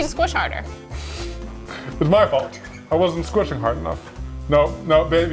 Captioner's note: chuckles